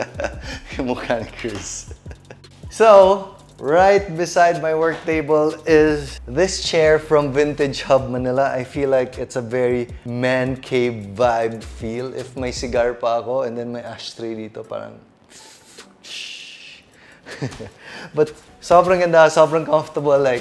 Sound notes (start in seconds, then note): 17.2 chuckles